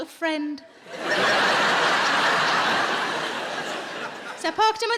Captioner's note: audience laughs